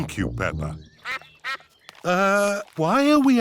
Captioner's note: sucks quacking